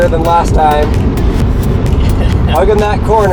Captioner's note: laughs